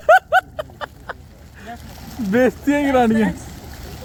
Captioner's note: laughter